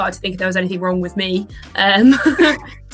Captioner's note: laughing